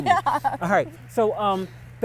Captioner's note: laughs